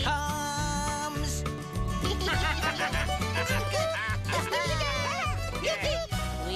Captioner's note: lauaughghining